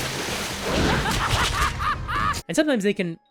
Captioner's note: maniacal laughter